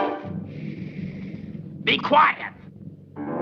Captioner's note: suspicious music; shushing